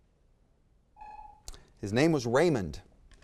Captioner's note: timer sounds